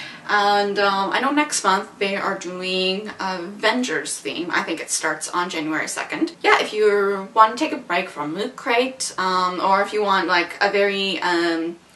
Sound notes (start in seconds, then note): none